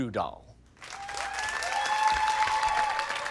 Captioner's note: applause